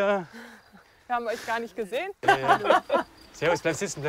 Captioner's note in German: Lachen